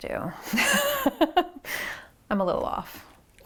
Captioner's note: laughs